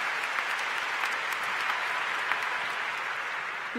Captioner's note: cheers & Applause